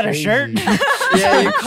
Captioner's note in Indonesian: tertawa